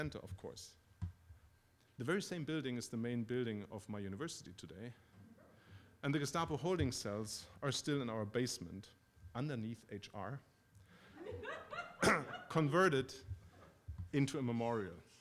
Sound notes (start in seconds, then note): 11.1 laughter